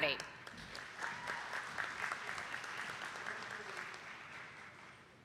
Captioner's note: attendees clapping